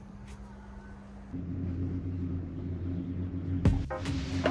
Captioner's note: gondola riding up and going up